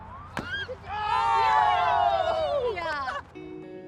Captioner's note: cheering